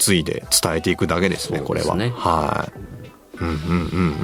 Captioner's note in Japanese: 鼻息